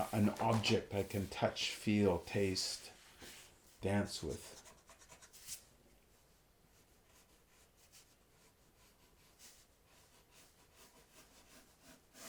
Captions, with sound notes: An object I can touch, feel, taste, dance with. (pencil scratching)